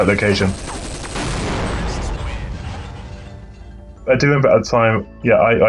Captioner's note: explosions booms